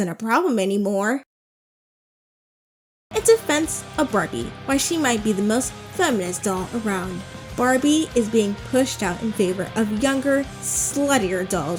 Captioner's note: dramatic reading